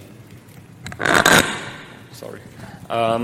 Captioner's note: microphone creaks